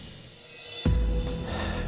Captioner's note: dramatic music; sigh